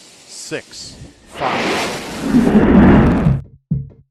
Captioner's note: fire roaring; upbeat music